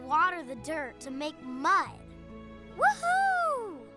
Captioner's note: whooping